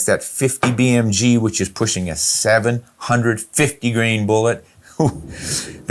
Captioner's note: chuckles